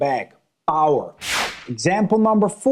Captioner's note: screen whooshing